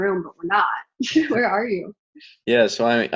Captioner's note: laughs